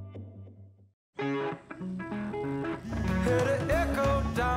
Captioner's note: rock music; phones vibrating